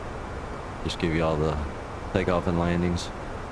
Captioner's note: radio chatter